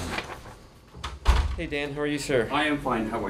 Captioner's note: door closing